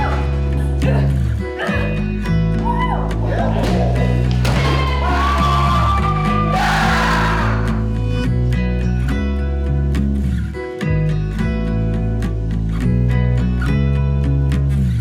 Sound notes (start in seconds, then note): 0.1 people shouting; 4.0 crew cheering; 6.9 man shouting; 8.9 gentle music